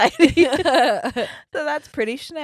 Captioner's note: laughing